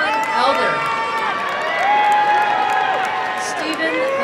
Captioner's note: applause and cheering